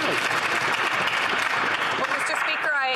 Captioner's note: some Applause